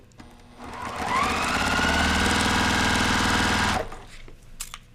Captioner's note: machine sewing